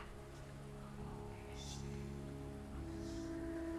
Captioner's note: faint whispering